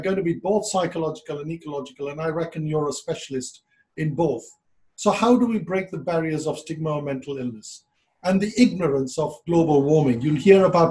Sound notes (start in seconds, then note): none